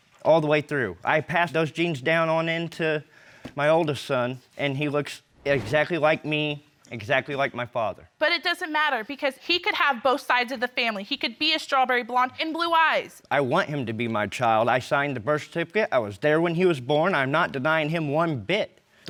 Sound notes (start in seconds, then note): none